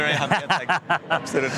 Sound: chuckles

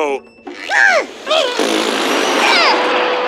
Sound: blows a raspberry

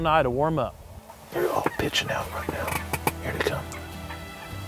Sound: whispering

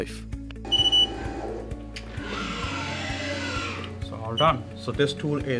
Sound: machine beeping

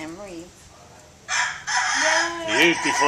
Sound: rooster crowing

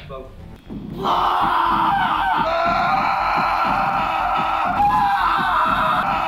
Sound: screaming

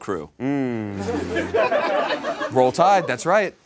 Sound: people laugh

